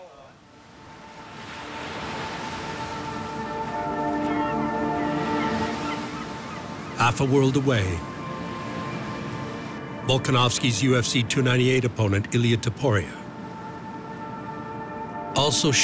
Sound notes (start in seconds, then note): 2.4 gentle music; 2.4 waves breaking; 4.9 seagulls cawing